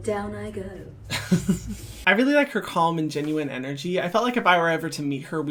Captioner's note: laughing